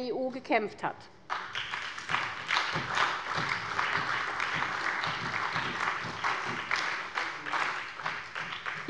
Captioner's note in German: Beifall bei der SPD und bei Abgeordneten der CDU